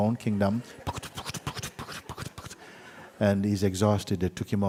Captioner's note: horse riding sounds